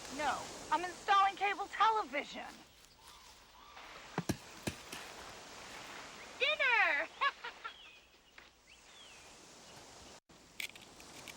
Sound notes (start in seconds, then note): 4.2 coconuts thudding; 9.1 laughs